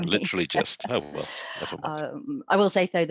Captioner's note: laughter